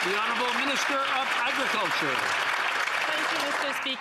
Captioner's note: some Applause